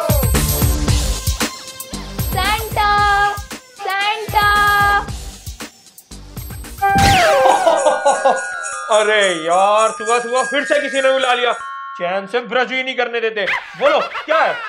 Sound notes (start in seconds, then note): 7.2 Santa laughing